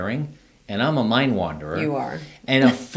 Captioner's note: laughs